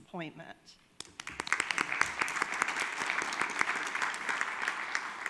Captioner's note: audience claps